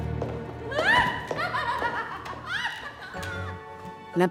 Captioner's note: Elisabeth shrieks; Peter chuckles; mellow music